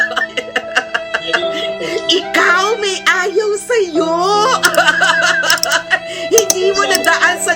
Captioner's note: laughter; laughter